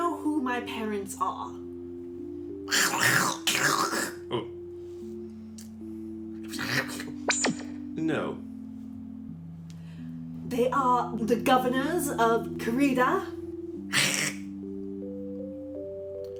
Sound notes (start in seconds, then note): 2.2 Guard speaking Trandoshan language; 15.5 Guard speaking Trandoshan language